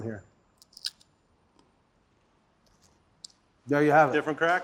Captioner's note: crunching sound